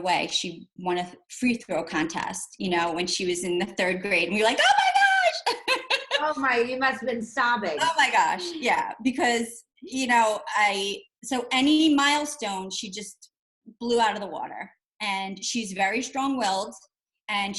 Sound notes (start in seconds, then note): 5.4 laughs